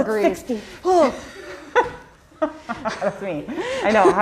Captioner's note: laughs